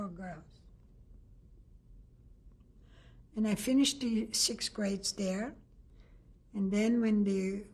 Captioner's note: pauses for 3 seconds